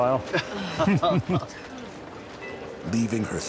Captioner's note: all laugh